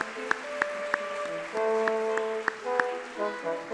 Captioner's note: audience clapping